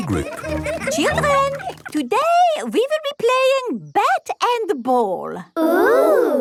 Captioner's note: children laughing